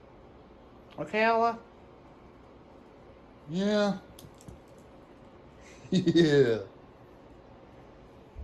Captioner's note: Ella giggles